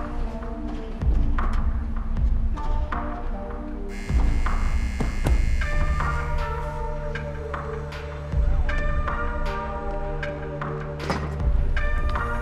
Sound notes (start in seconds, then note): 3.9 door Buzzer